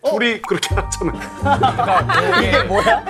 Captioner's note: hahaha